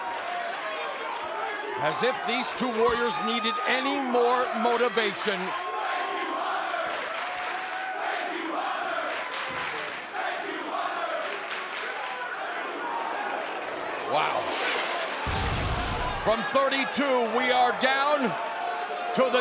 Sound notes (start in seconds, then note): 6.0 crowd chanting